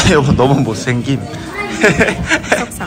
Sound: laughing

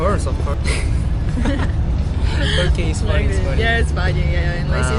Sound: shameful laughter

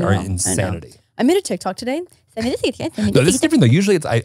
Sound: speaks in foreign language

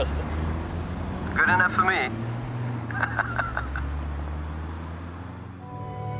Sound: laughs; ethereal instrumental music

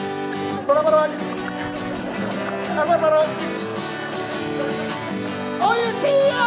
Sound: clicking his tongue and mumbling

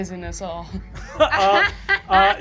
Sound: Fig laughs

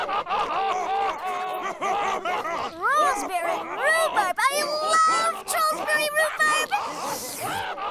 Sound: slurp

